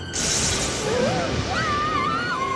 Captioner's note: gasps